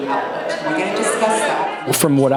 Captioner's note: audience murmuring